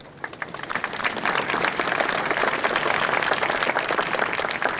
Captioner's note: audience applauding